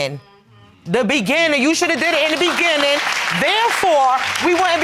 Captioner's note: audience applauding